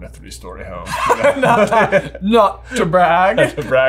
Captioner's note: laughing